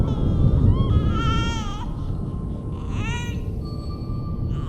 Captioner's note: baby fussing